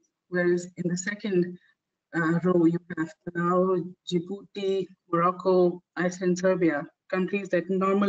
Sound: audio static

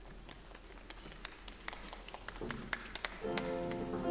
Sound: scattered applause

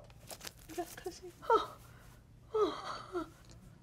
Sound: moaning

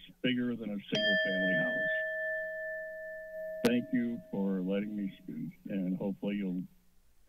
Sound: alarm sound

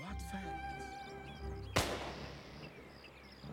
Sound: loud backfire

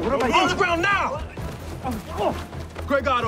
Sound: grunts

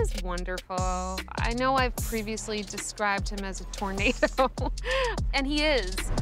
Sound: laughs

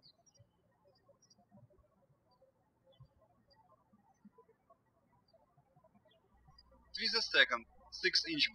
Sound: birds chirping

